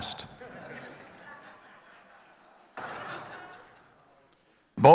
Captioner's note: audience laughing